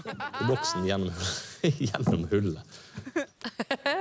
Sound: laughs

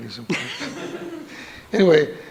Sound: audience laughs

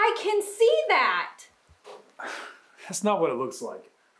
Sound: Jim scoffs

